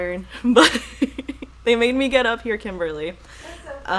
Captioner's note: laughing